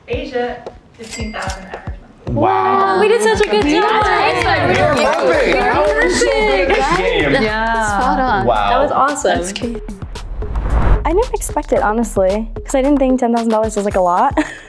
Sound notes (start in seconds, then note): 4.9 group chattering; 14.4 laughs